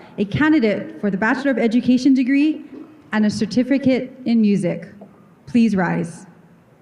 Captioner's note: none